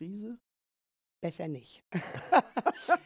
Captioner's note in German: lacht